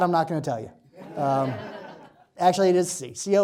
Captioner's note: laughter